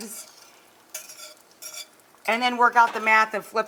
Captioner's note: whisk scraping